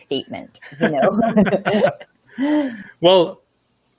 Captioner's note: laughing